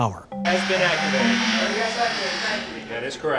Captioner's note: people chattering